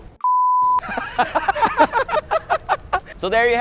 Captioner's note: laughs